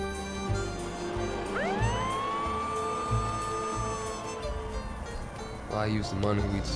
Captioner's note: police car motor starts, sirens wail